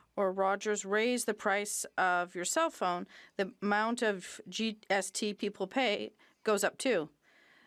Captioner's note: speaking French